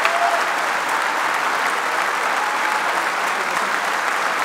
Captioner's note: applause